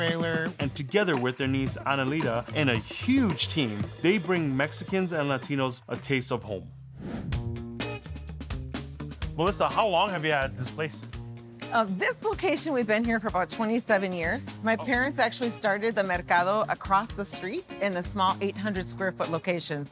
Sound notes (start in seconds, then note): 6.9 air whooshing; 7.9 mellow groove music